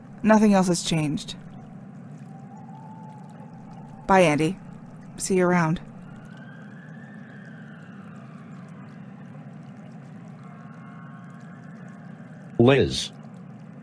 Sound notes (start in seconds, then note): 7.0 running stream, faraway sirens